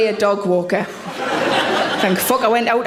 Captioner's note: audience laughs